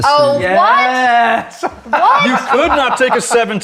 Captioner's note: laughs